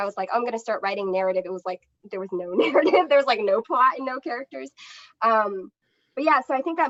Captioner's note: laughter